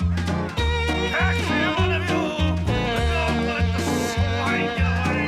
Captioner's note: Spode shouting